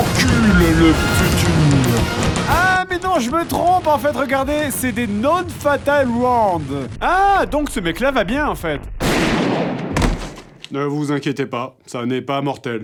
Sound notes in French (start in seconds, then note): 9.0 coup de feu